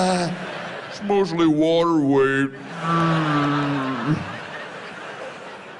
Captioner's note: whale sounds